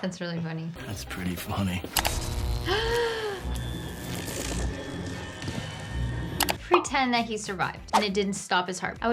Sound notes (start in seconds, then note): 2.2 gasps, electricity zaps